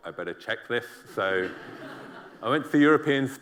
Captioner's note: laughter